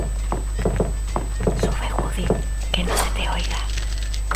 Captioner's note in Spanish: susurrando